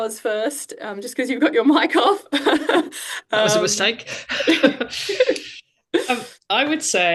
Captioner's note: laughs